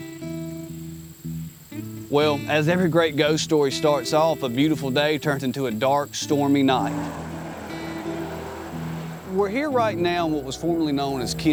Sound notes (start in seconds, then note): 0.1 calm music; 6.3 car sounds